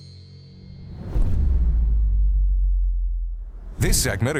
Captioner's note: logo whooshing